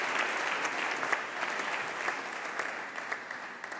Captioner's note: applause